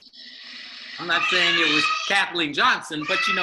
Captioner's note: child wailing